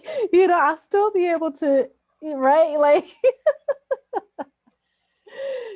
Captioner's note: laughs